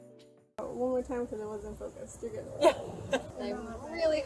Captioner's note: laughs